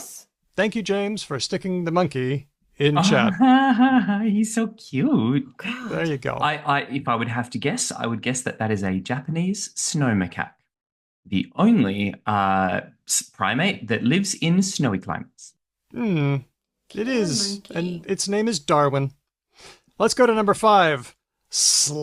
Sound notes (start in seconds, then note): 3.0 chuckles